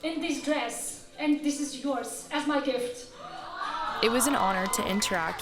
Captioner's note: oooh's & applause